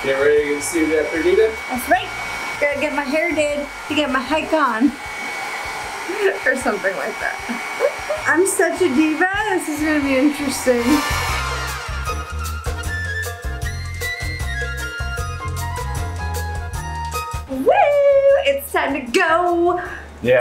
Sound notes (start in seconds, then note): 5.3 giggles softly; 11.7 upbeat music